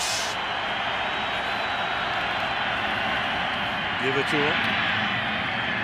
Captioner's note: cheering